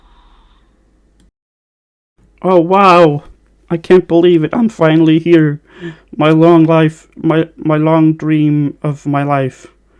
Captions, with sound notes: OH WAUW I can't believe it, I'm finally here. *INHALE* My long life My- my long dream... of my life.